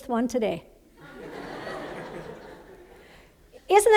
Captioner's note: laughter